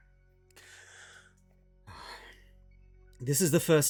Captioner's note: deep Breath